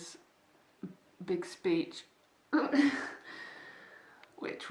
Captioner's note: some sort of despair/laugh noise